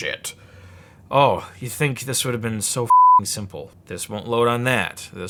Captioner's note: beeping